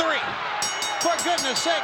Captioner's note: bell rings